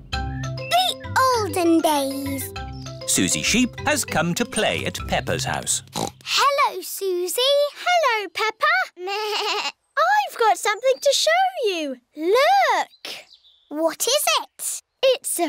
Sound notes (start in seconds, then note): 5.8 snorts; 9.2 bleats